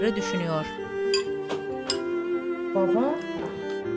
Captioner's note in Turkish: Çatal bıçak sesi